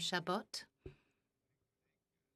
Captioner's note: speaking French